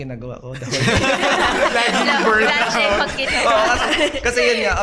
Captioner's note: laughs